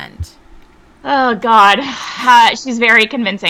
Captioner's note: sighs